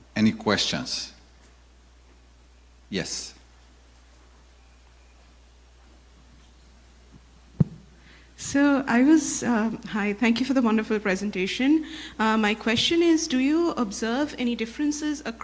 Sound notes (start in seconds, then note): 8.6 woman With Western Europe accent